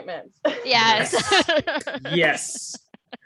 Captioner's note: laughter